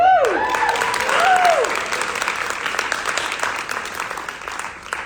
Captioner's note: audience applauding